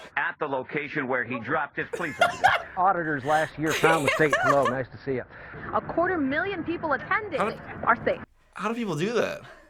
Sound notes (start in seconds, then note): 1.9 laughs